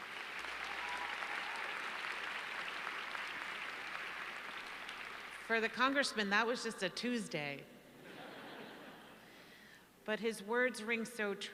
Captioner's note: applause